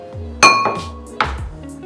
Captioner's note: bowl clinks on glass